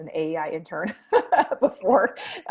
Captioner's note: laughs